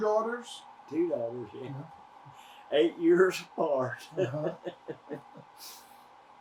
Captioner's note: laughs